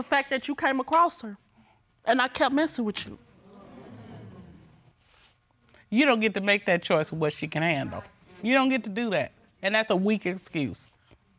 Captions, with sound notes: the fact that you came across her and I kept messing with you. [audience awes] You don't get to make that choice of what she can handle. You don't get to do that, and that's a weak excuse.